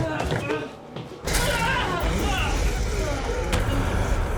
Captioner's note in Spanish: gruñidos de Jonathan